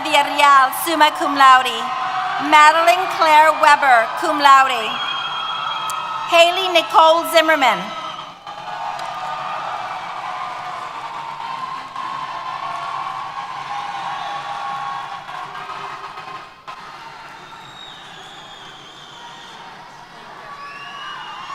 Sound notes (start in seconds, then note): 8.7 applause & Cheers